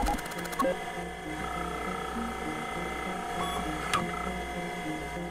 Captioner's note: electronic whirring; electronic beeping